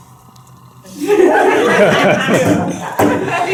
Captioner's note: laughter